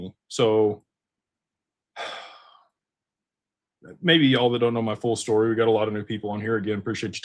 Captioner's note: sighs